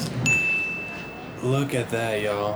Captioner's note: taco crunches; bell dings